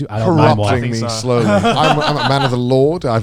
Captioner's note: laughing